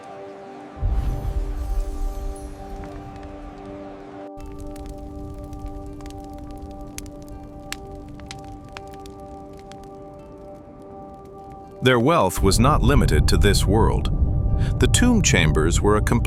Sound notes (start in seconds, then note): 0.1 instrumental music plays; 4.2 fire crackles